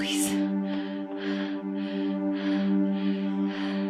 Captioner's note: breathing heavier